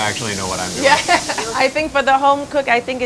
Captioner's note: laughing